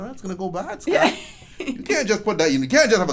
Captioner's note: laughs